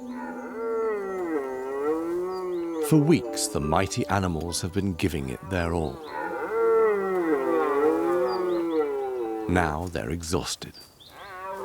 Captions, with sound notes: [stag roars] For weeks, the mighty animals have been giving it their all. [stags roaring] Now they're exhausted.